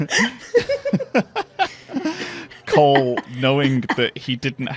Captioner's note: laughing; laughs